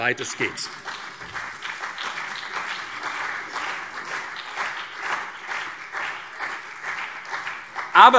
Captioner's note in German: Beifall CDU und BÜNDNIS 90/DIE GRÜNEN